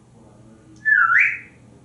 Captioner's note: more whistling